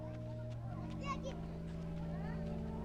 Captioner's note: children indistinct chatter